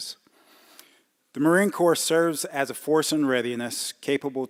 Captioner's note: none